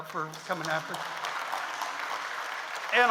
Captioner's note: audience applauds